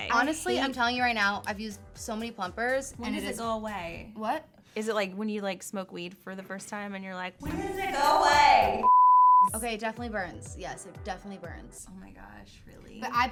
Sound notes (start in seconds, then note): 8.8 beep